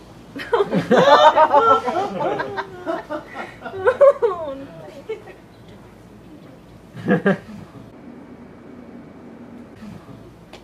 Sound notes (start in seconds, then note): 0.3 laughter